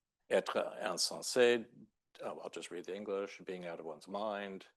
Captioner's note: speaking French